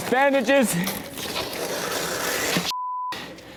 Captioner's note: creepy noise